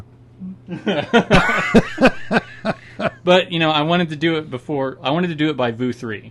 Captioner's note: both laughing